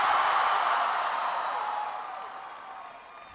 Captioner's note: applause